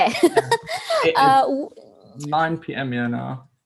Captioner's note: laughs